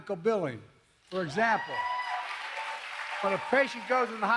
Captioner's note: applause